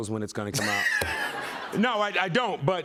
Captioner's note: laughter